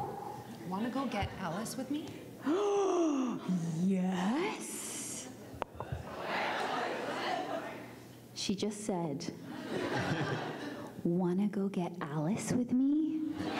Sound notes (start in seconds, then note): 2.4 gasps; 6.1 crowd asks "What?"